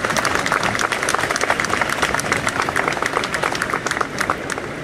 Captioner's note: applause